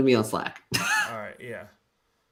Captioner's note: laughs